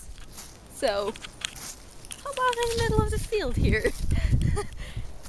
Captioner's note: laughs